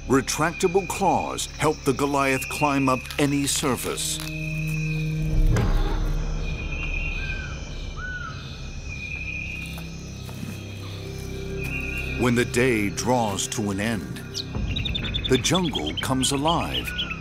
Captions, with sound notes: Retractable claws help the Goliath climb up any surface. (light dramatic music) (birds chirping) When the day draws to an end, the jungle comes alive.